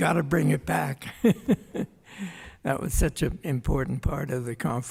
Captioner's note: laughs